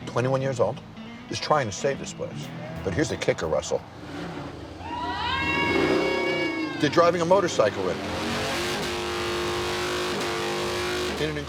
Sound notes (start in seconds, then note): 4.6 motorcycle engine revving; 4.7 bar patrons cheering; 8.6 motorcycle engine revving